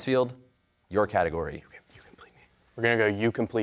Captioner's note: whispers